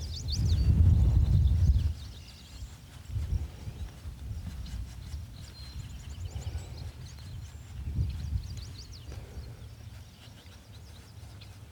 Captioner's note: birds chirping